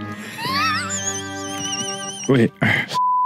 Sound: laughs

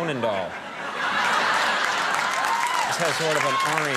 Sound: audience cheering

